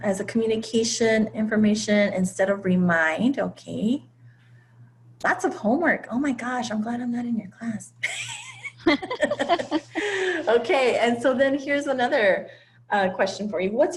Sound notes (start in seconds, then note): 8.0 laughter